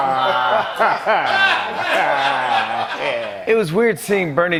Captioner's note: laughing continues